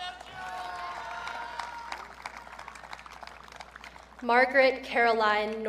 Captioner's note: audience cheering